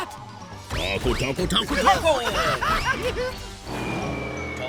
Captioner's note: laughing nastily